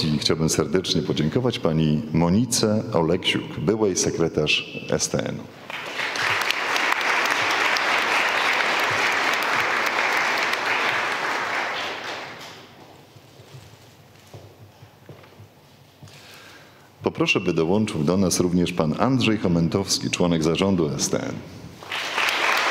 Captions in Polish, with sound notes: i chciałbym serdecznie podziękować pani Monice Oleksiuk, byłej Sekretarz STN. [oklaski] Poproszę by dołączył do nas również pan Andrzej Chomentowski, członek zarządu STN.